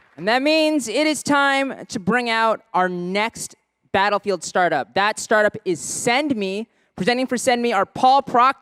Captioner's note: applause